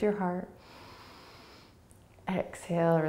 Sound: inhaling

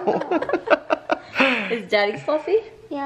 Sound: laughing

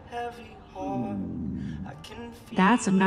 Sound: Max's stomach growling

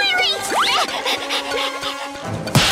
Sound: panting

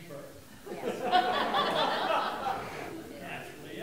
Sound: audience laughing

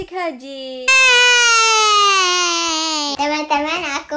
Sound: screaming excitedly

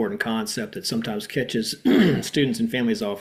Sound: coughing

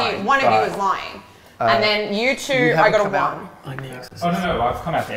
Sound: whispering

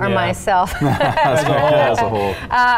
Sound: laughs

